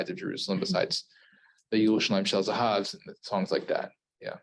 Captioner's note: Hebrew